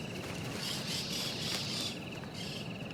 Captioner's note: crow